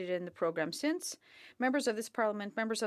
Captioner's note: speaking French